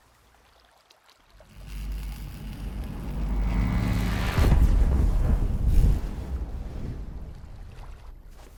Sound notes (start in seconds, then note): 1.4 energy crackling; 4.3 static whooshing